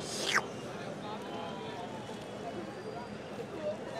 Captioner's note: slurps